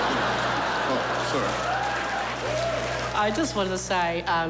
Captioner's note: laughter; cheers and applause